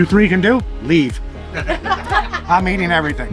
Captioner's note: laughing